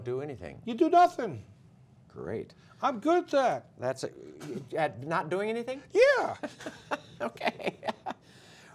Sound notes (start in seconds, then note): 6.3 laughter